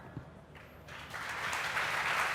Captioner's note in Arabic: تصفيق